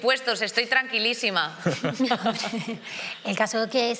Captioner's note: they laugh